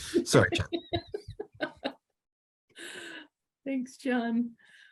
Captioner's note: laughs